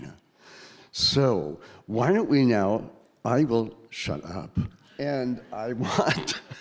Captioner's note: laughing